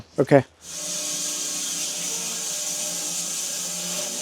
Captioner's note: saw buzzing